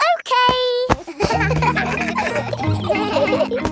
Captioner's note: kids laughing